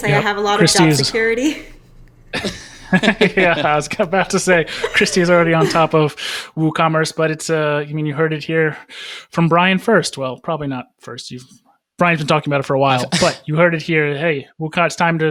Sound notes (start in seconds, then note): 2.3 all laugh